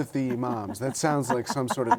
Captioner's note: laughter